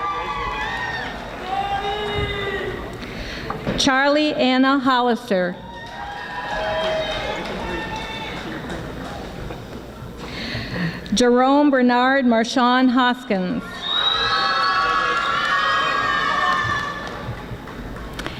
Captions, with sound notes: (audience applauding and yelling) Charlea Anna Hollister (audience applauding) Jerome Bernard Jerome Marshawn Hoskins (audience screaming)